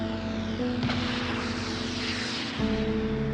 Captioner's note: ejection seat pops